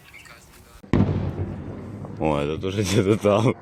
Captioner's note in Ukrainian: вибух